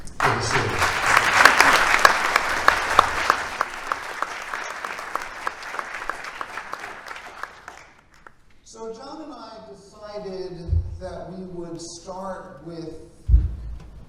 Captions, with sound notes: in the city. [Applause] So John and I that we would start with